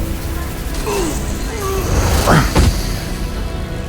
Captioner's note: groans in pain